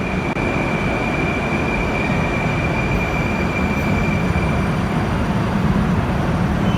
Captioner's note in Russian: прибытие поезда на станцию